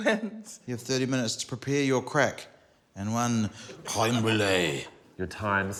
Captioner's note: french accent